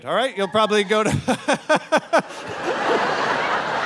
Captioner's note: laughing; audience laughing